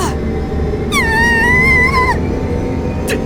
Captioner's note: panicked cry